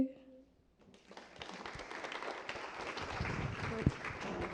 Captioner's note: applause